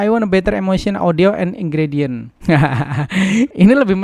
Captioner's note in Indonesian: tertawa